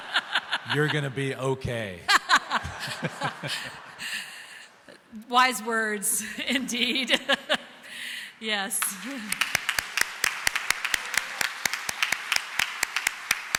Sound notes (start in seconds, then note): 3.7 audience laughs; 7.0 audience laughs; 11.8 chuckles